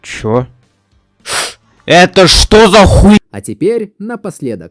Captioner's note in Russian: шипит